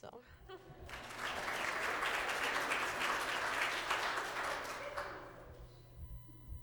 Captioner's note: applause